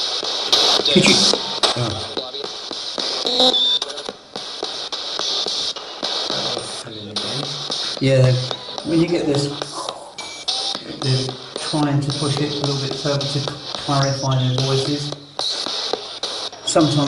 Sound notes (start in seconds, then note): 0.8 radio babbles; 9.6 scrambling sound